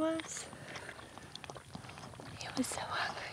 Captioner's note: calf drinking